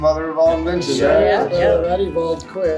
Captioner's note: group affirming